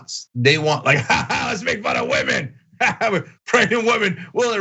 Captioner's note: laugh